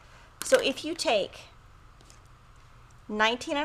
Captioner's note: pen clatters